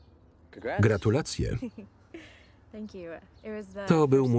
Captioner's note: laughs